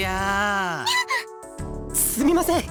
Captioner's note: gasp